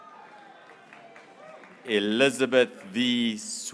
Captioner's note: graduates cheering